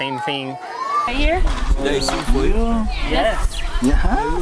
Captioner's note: chatter